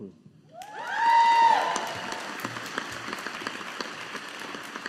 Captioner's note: audience applauding